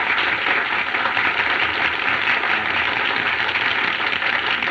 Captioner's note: chattering